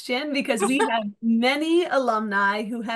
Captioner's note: chuckles